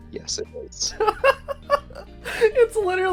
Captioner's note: laughter